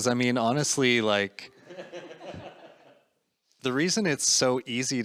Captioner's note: audience laughing